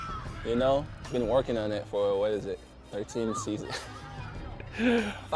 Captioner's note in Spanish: risas